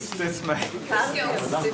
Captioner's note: indistinct conversation